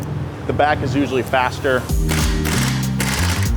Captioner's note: socket grinding